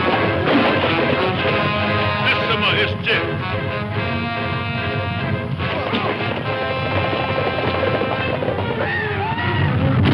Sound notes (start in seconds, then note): 1.1 speaks in foreign language; 4.5 dramatic music